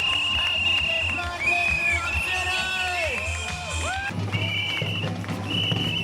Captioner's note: people cheering; whistles blowing